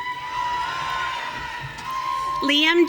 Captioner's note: audience cheering